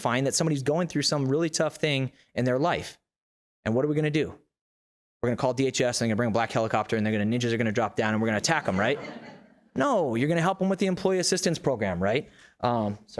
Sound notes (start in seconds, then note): 8.4 audience laughs